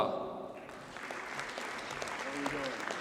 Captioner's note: audience applauds